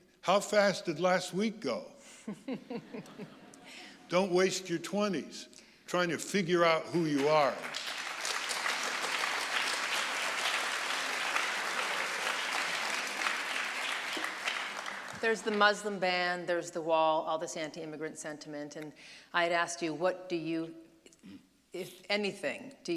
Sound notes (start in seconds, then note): 2.3 audience laughing; 6.9 audience applauding